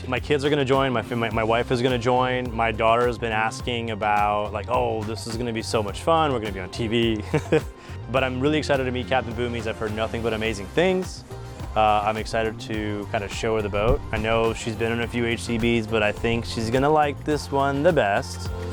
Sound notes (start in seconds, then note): 7.1 chuckles